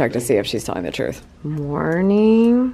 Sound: typing

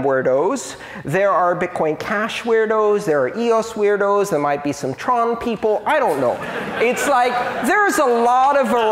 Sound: laughter

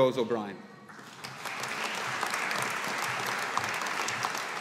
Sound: audience applauding

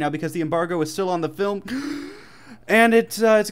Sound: A big breath

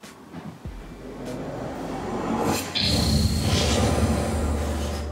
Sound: mimics jet engine

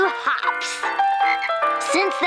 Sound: ribbiting

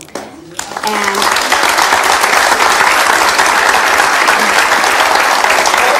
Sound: audience claps

